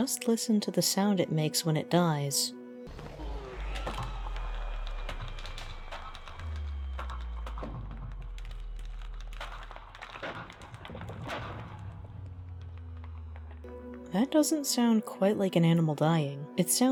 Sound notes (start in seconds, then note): 2.9 Sound of Ender Dragon Death